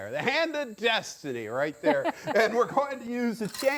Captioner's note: laughs